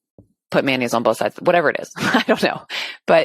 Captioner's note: laughs